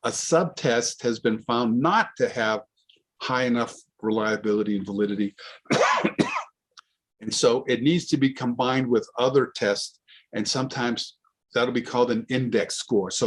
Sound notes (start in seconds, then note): 5.6 coughs